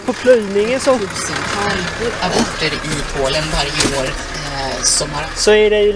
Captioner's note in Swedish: Radion låter